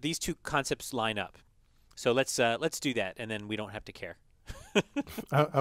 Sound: laugh

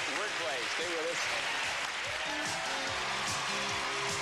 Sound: applause

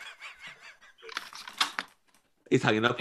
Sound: laughter

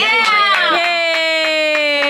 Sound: people cheering

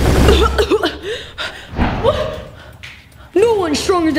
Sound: coughing

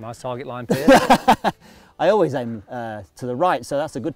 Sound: laughs

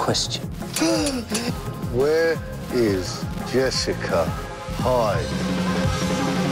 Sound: gasping

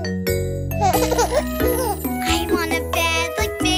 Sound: cooing

